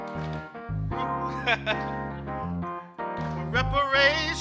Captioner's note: chuckling